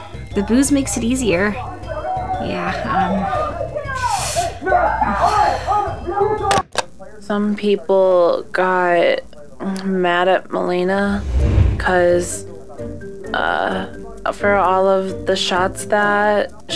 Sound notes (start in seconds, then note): 4.5 unhinged shouting